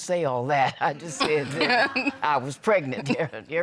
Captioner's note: laughs